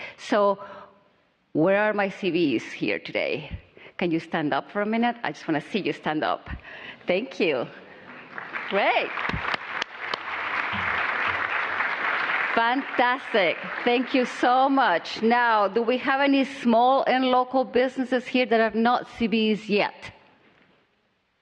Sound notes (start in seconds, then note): 10.1 applause